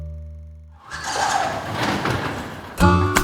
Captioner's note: garage door sliding